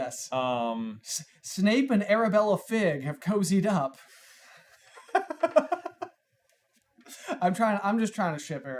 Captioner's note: giggles